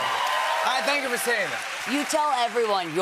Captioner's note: cheers and applause